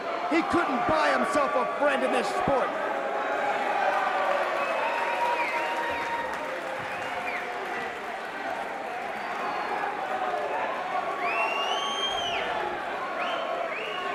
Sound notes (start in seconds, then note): 5.0 crowd cheering; 8.5 crowd chatter